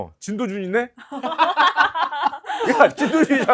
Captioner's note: laughter